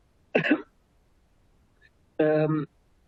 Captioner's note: coughs